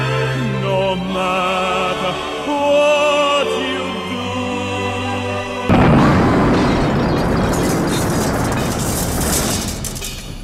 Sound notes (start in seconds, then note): 5.6 boooom